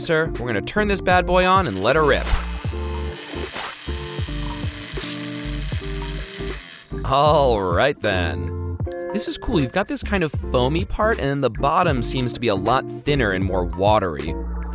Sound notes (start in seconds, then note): 3.3 juicer noises